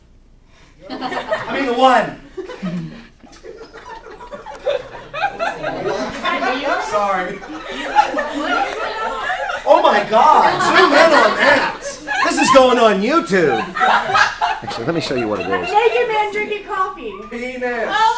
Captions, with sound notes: (laughter) Oh my, this is going on you tube!